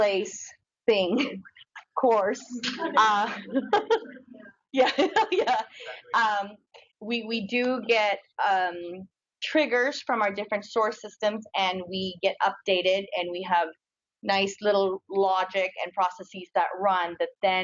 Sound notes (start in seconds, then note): 2.5 audience laughs; 5.6 audience laughs